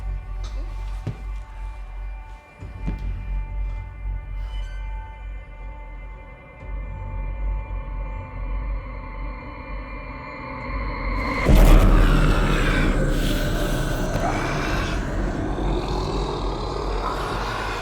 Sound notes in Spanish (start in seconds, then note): 3.6 música tensa; 11.2 Clint gruñe